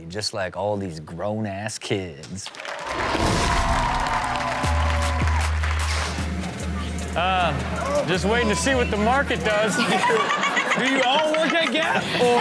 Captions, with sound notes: just like all these "Grown-Ass Kids." (audience cheering) (rhythmic music) Ah, just waiting to see what the market does. (audience laughing) - Do you all work at Gap?